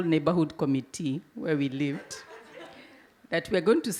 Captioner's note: audience laugh